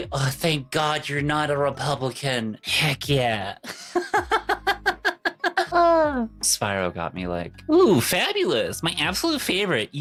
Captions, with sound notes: Oh, thank God you're not a Republican. Heck yeah. (laughs) Spiro got me like, ooh, fabulous. My absolute favorite!